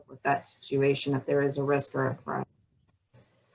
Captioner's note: audio blurs